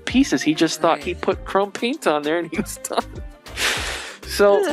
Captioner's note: laughing